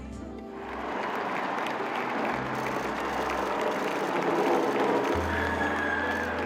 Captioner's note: crowd cheers